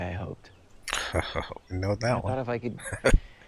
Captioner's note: chuckling